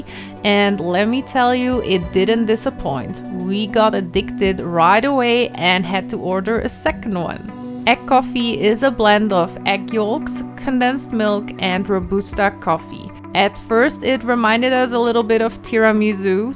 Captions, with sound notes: and let me tell you, it didn't disappoint. We got addicted right away and had to order a second one. Egg coffee is a blend of egg yolks, condensed milk, and robusta coffee (Vietnamese) At first it reminded us a little bit of tiramisu,